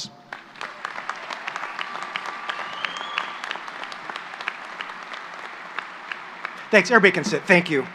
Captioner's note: applause